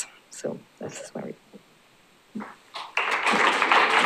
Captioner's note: applause